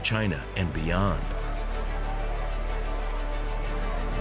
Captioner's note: crowd buzzing